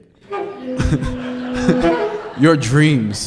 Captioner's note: laughter